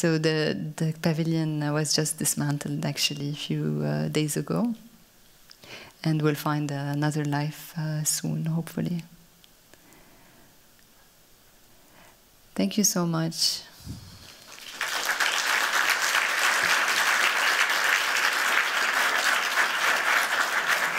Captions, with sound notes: So the pavilion was just dismantled, actually, a few days ago and will find another life soon, hopefully. Thank you so much. [APPLAUSE]